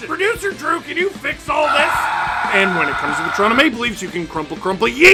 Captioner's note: screaming